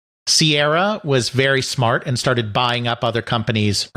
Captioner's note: none